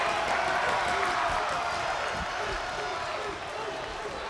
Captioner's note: crowd cheers, barks